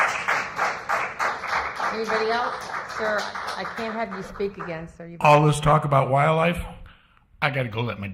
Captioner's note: applause